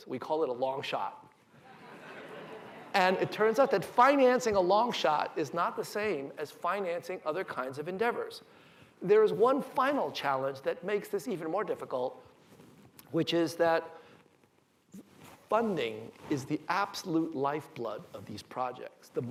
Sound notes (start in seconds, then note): 1.6 laughter